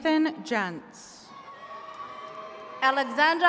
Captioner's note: attendees cheering